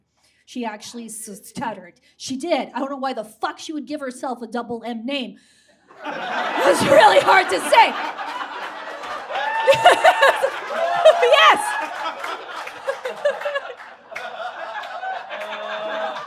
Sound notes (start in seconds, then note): 5.5 audience guffaws; 9.4 laughs with audience; 11.2 audience whoops and cheers